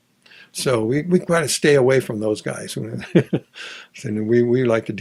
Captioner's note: laughs